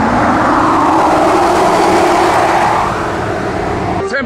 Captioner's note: engine roaring